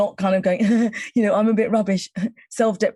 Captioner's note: chuckling